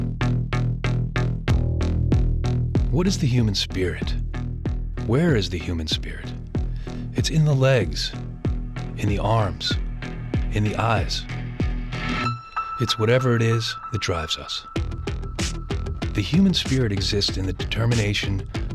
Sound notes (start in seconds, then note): 3.0 voiceover